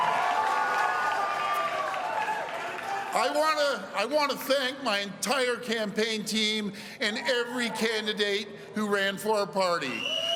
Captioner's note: cheering